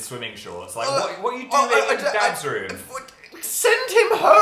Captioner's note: stammers